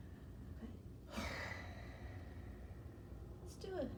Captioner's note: sighs